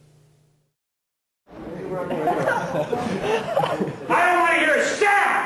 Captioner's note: students laughing